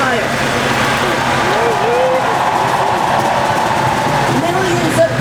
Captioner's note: people cheering